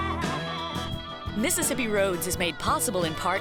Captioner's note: voiceover